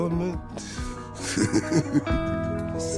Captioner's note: laughs